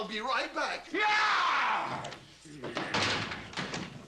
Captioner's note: roars